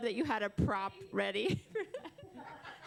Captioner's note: laughter